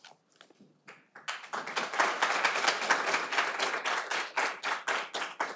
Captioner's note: audience applauding